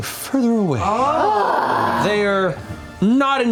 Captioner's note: relieved groans